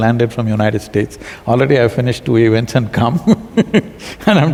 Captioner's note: laughs